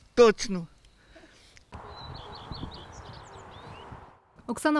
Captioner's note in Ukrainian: Спів птахів